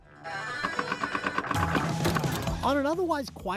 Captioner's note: machines chiming